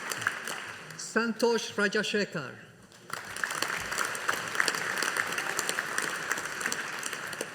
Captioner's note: audience applauding